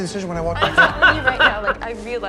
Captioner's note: laughs